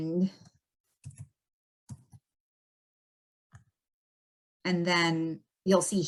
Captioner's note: keyboard clanking